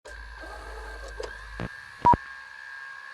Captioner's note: film whirring; logo beeps